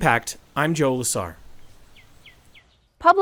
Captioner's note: wind blowing; birds chirping